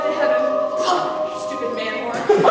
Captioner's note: stocking spits